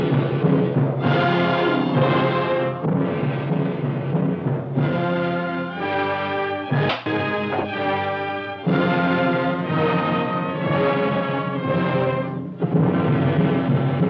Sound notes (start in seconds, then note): none